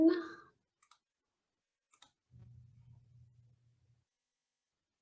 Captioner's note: mouse clicking